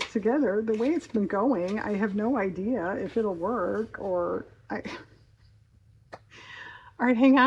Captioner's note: laughs